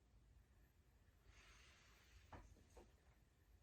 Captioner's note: slow breathing